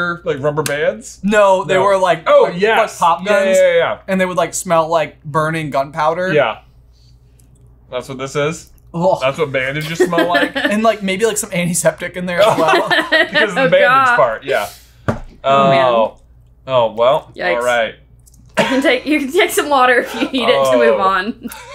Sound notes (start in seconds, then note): 12.4 laughing; 21.5 laughing